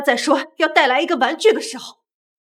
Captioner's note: excited